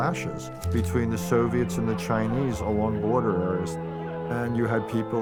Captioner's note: shouting